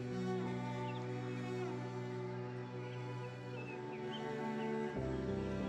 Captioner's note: birds chirping